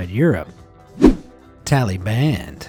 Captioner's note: image whooshing